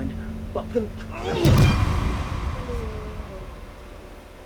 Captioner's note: Penn groans